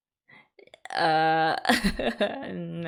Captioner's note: laughs